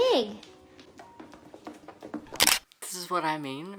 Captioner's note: hoofs clacking; camera shutter